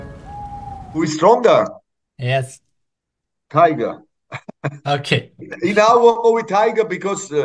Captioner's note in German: lacht